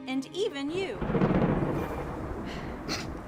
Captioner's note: loud thunderclap